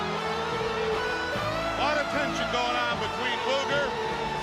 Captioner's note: crowd cheering